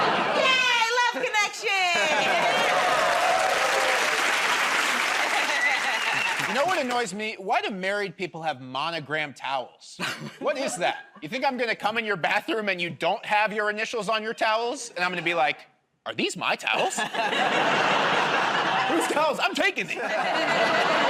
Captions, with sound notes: -Yay! Love connection! [ Cheers and applause ] -You know what annoys me? Why do married people have monogrammed towels? What is that? You think I'm going to come in your bathroom and you don't have your initials on your towels and I'm going to be like, "Are these my towels?" "Who's towels? I'm taking these."